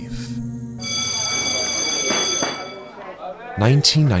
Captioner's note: bell rings; students chattering